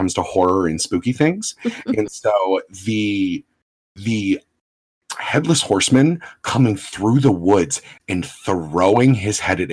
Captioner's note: laughs